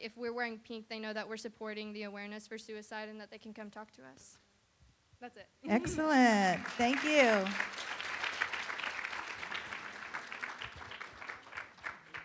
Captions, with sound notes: if we're wearing pink they know that we're supporting the awareness for suicide and that they can come talk to us. That's it. - Excellent, thank you. (room applauds)